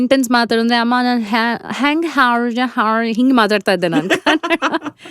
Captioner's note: speaks in foreign accent